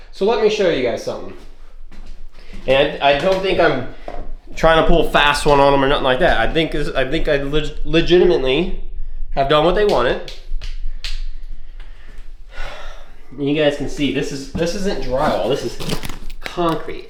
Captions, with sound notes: So let me show you guys something. And I don't think I'm trying to pull fast one on them or nothing like that. I think I legitimately have done what they wanted. (Sighs) You guys can see this isn't drywall. This is concrete.